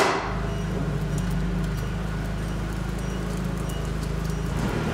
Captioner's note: material creaking; forklift beeping